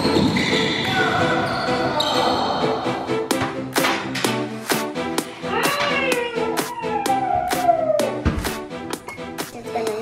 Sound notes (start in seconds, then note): 0.0 shoes squeaking; 2.4 players shouting and groaning